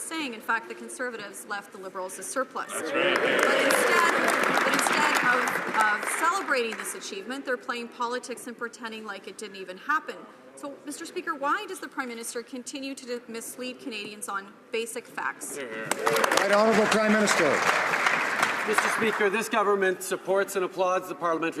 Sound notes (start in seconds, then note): 2.8 some applause; 15.8 some applause